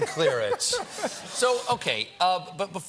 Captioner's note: laughter